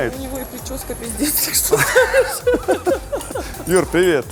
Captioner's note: both laugh